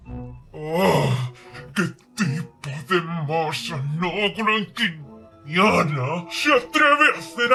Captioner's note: growls